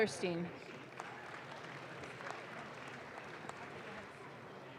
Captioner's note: audience claps